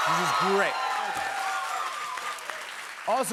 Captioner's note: cheers and applause